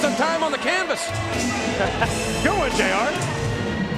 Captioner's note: laugh